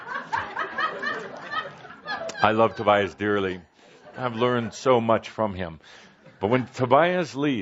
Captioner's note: laughter